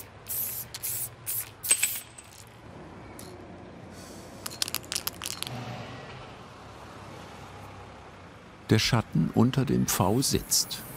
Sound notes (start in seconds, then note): 4.4 he shakes the can